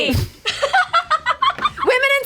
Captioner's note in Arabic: تضحك